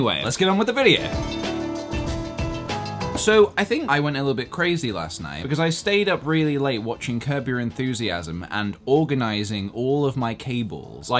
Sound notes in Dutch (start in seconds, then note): none